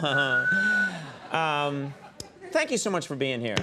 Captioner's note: Jack Black whistling